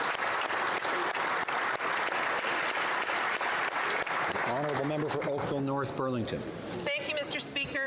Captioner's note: applause